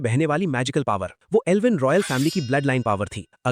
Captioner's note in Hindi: नाक से की जाने वाली आवाज़